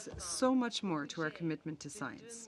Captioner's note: speaking French